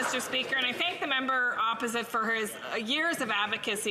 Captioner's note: some Applause